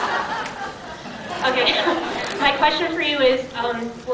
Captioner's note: laughs